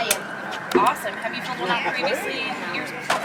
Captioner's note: voiceover